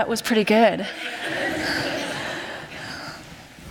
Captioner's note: laughter